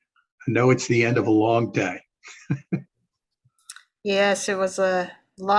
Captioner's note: laughs